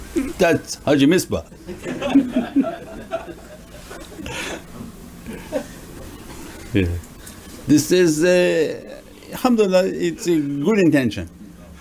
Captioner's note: everyone laughs